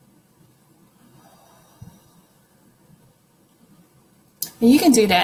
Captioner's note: inhales through nose; exhales through mouth